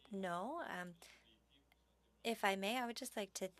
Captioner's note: speaking French